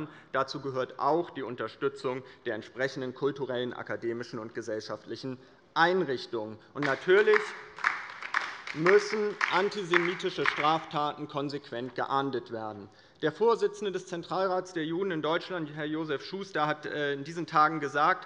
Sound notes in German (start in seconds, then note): 6.8 Beifall bei der LINKEN